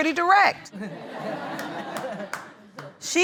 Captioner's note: audience laughing